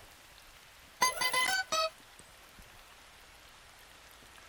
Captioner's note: bell chimes